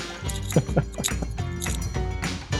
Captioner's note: laughs; upbeat music